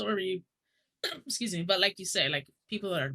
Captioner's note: coughs